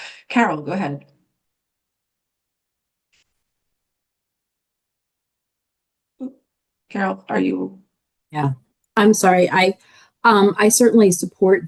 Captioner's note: pause